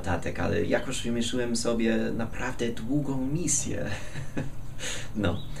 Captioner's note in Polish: śmiech